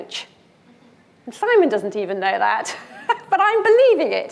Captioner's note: laughs